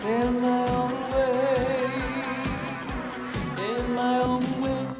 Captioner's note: none